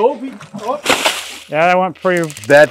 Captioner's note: water splashing